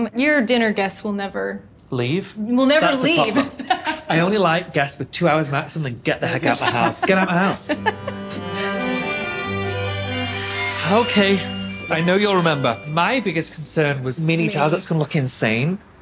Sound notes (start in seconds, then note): 2.9 laughs; 8.8 laughs